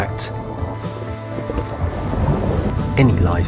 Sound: water splashing; lion grunting

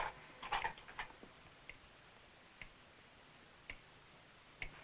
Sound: clock ticking

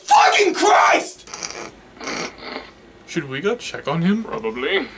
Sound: both snicker

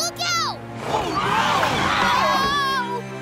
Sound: screaming

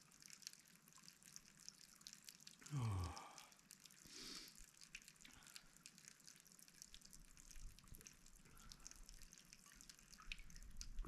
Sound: water running

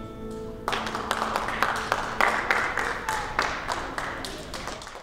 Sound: applause

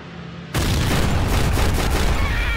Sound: explosion; screaming

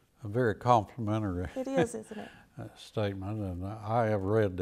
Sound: laughs

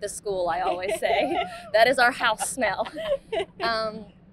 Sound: both laughing

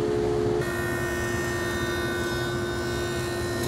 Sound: saw zings

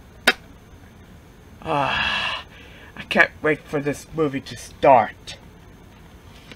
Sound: sighs

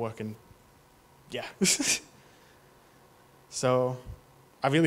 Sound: chuckles

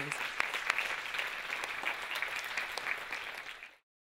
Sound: audience applauding

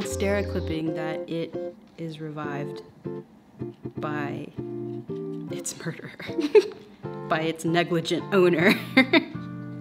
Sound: laughs

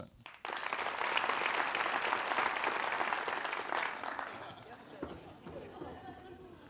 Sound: applause

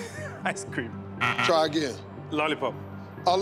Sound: buzzer beeps

